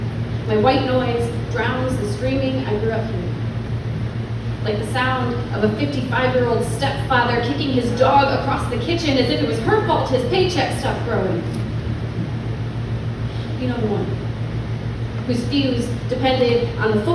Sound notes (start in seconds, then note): none